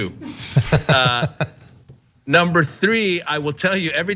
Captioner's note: laugh